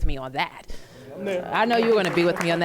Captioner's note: applause